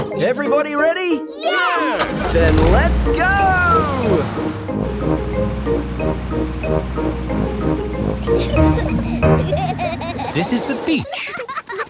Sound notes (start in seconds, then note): 8.1 children giggling